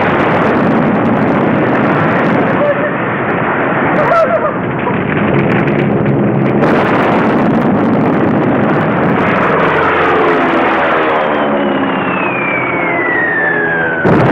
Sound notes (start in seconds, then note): 2.7 woman shouting; 6.8 explosions roaring; 9.8 plane engines humming; 11.1 bomb whistling